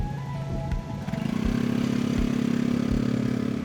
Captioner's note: rumbling engine